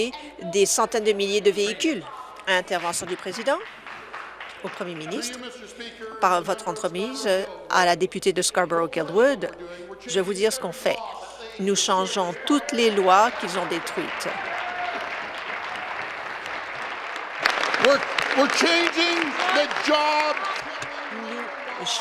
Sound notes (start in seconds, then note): 5.0 applause; 18.8 applause